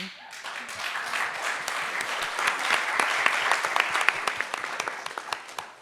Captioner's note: audience cheering and applauding